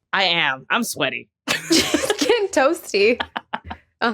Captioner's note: both giggling